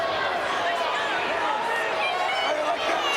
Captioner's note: crowd murmuring